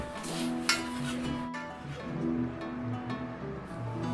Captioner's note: feet thudding; metal clanging